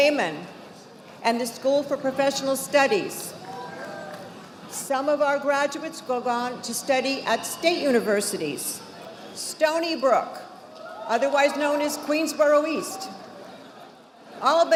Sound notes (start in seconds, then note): 3.8 audience applauding